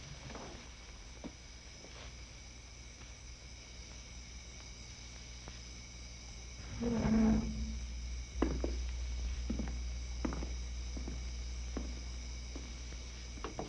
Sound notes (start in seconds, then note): 6.6 chair pulls out; 8.3 footsteps